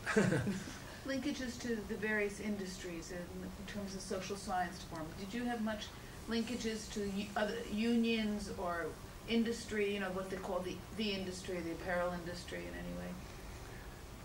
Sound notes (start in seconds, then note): 0.0 laughs